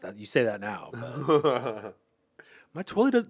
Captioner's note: Anthony laughs